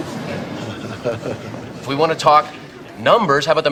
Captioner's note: people chuckling